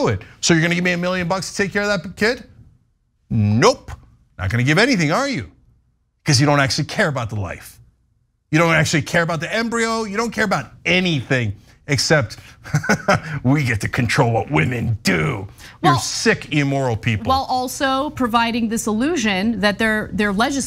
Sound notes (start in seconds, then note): 12.6 laugh